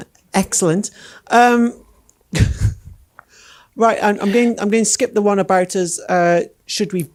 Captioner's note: laughing